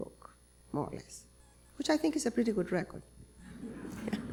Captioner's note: chuckle